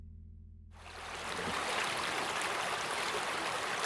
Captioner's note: water lapping